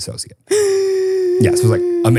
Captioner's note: person gasping